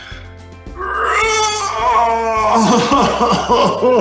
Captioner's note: groaning